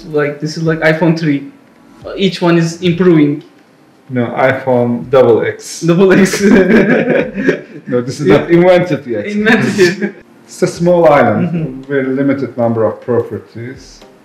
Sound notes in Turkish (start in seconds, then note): 6.1 Gülüşmeler